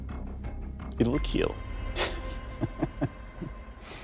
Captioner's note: chuckling